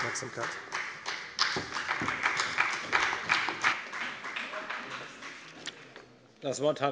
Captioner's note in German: Beifall bei der FDP und bei Abgeordneten der SPD